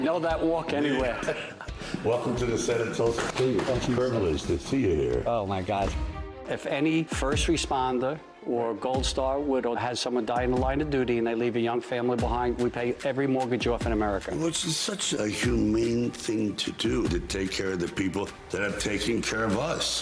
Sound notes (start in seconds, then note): 0.7 laughter